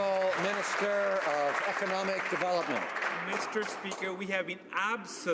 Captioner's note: some Applause